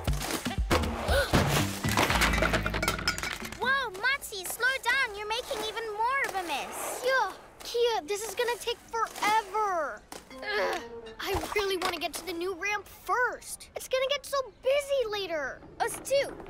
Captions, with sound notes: (Gasps) Whoa! Motsi, slow down! You're making even more of a mess! Yho! Kiya, this is gonna take forever. Ugh! I really want to get to the new ramp first. - It's gonna get so busy later! - Us too!